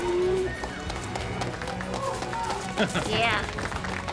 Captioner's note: applause